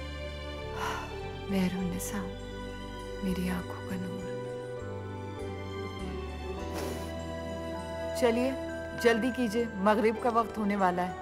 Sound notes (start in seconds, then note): 0.5 Sighs; 6.6 Sniffs